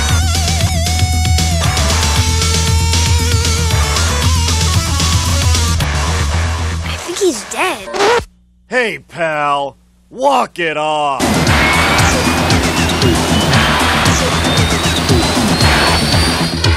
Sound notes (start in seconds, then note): 8.4 child with Adult Voice